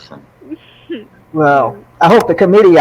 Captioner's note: chuckles